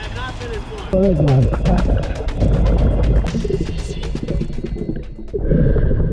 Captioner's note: water burbling; exhaling deeply